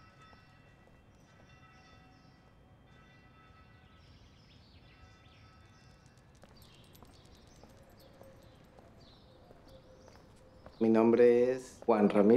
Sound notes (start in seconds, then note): none